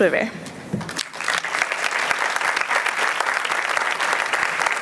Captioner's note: applause